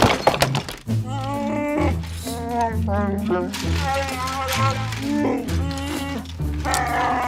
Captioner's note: Chewbacca sounds